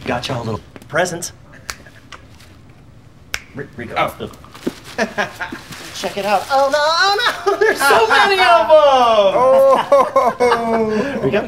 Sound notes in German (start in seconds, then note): 1.6 schnippt mit den Fingern; 9.6 Verkaufsteam lacht